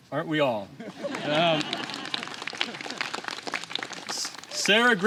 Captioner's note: applause